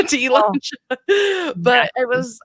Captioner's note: laughs